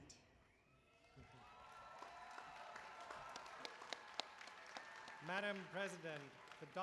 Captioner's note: applause